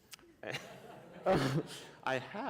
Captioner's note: laughter